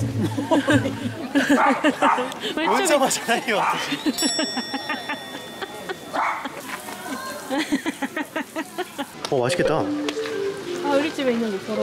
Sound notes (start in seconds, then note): 1.5 bark